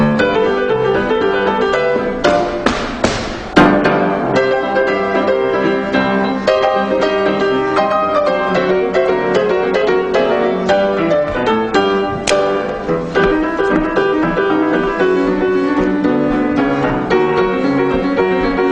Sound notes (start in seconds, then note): 0.0 upbeat jazz music; 2.1 feet stomping; 4.5 upbeat jazz music